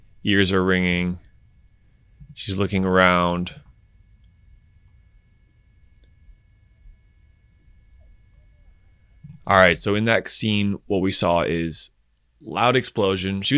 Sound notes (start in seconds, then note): 5.9 high pitch ringing